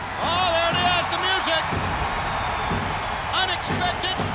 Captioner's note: crowd cheering